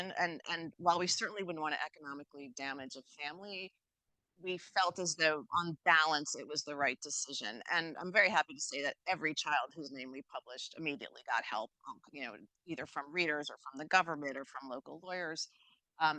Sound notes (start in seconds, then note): none